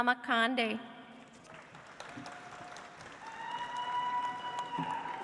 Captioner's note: audience applauds